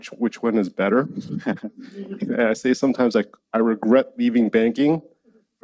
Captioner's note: laughs